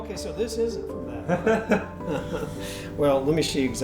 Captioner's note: laughs